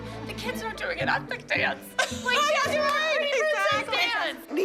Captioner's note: laughter